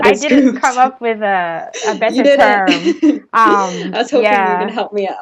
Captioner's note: laughs